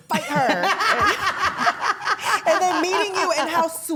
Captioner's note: wrestlers laughing